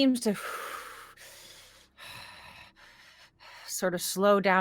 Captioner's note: breathing slows